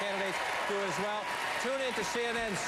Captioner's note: applause